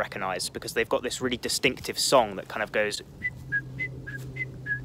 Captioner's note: whistling